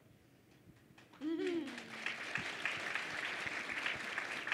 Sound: crowd clapping

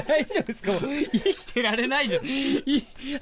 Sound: laughs

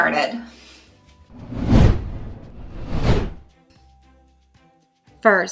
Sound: logo whooshing

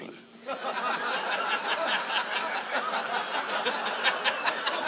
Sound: audience laughs

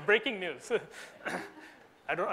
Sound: audience laughs

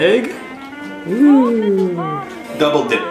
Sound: exclaims

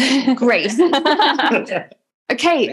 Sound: laughter

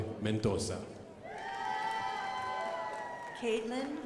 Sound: crowd applauding

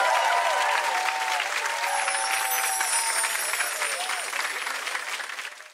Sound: audience applauding and cheering

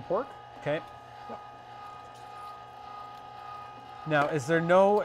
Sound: machine roaring

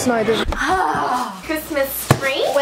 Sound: girls grunting

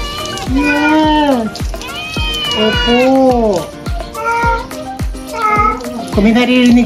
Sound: Meowi Meowing; Mapa Meowing

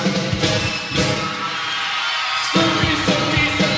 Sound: crowd screams

